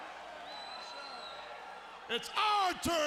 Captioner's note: attendee whistling